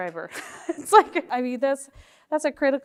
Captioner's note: chuckles